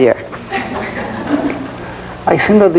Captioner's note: audience laughing